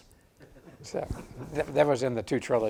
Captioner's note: audience chuckles